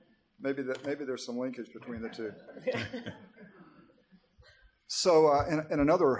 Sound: audience laughter

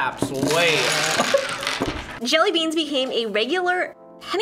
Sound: laughs

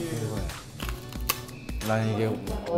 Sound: Crunch

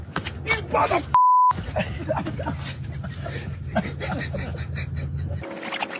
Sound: laugh

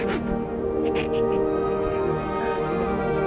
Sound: crying

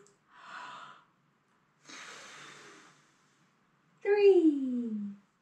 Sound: deep breath

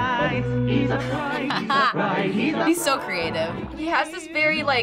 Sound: laughs

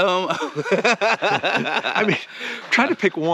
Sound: Ron laughing

